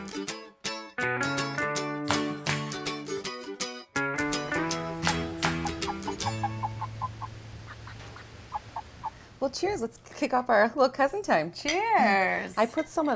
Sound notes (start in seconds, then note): 5.0 chickens clucking